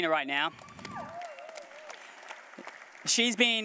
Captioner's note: applause